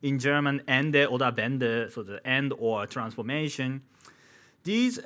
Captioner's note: man speaking in foreign language